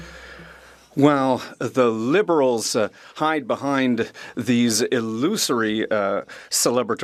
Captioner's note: speaking French